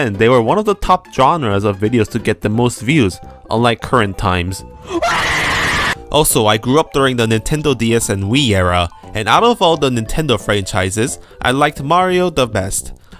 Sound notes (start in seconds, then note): 4.8 scream